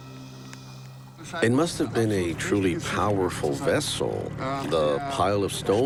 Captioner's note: in German